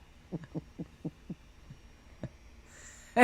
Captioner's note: both chuckling